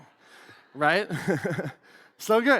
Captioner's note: laughs